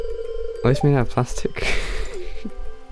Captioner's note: laughs